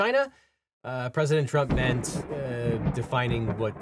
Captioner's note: thunder rumbling